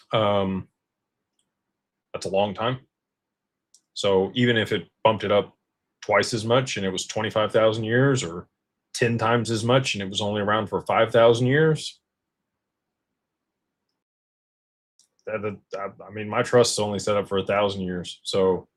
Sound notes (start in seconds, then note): none